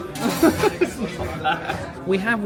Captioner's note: laughs